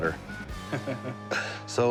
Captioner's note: laughs